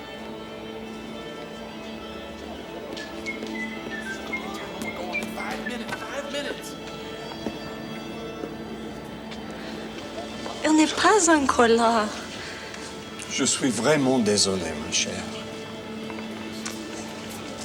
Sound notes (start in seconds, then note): 3.0 John whistle jauntily; 10.6 Jilly speaks French; 13.2 John speaks French